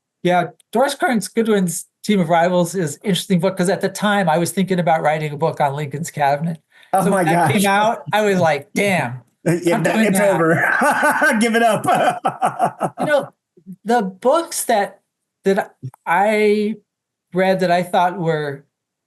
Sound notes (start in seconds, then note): 9.4 laughs